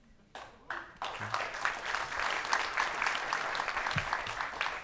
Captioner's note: audience applauding